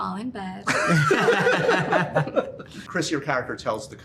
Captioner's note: laughter